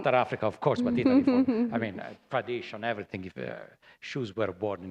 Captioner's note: laughter